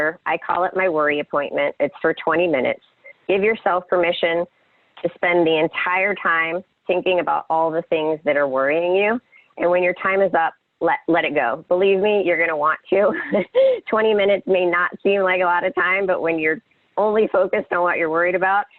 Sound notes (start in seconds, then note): 13.2 laughs